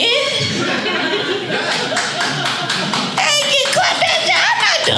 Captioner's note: audience laughing; audience applauding